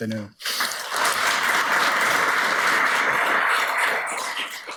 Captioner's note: audience applauds